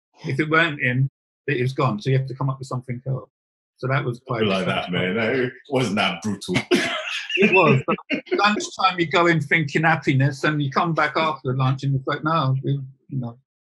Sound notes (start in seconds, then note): 6.9 laughing